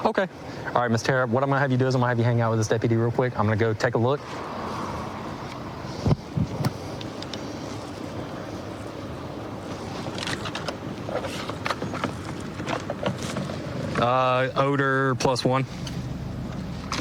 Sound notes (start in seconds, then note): none